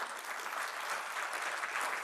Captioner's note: applause